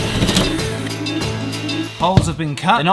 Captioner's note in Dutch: stofzuiger geluiden